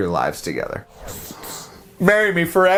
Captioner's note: whooshing